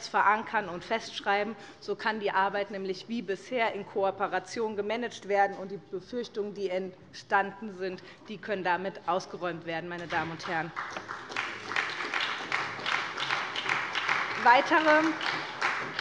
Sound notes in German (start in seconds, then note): 10.0 Beifall bei der SPD - Vizepräsidentin Heike Habermann übernimmt den Vorsitz